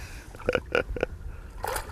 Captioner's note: laughter